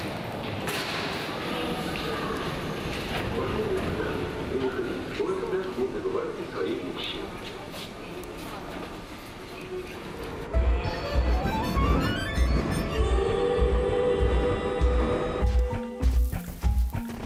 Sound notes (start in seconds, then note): 1.2 PA announcement in native language